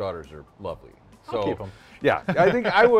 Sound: laughs

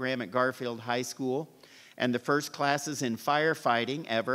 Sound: none

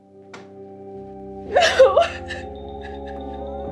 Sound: sobbing

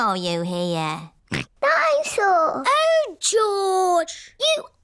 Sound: snorts

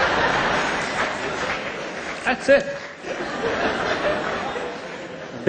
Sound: laughter

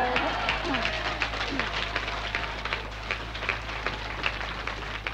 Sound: audience cheers and claps

